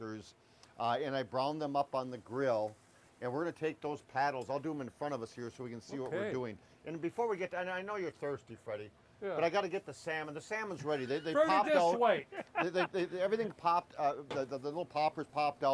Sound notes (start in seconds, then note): 12.5 laughing